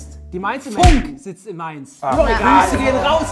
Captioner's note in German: Stimmengewirr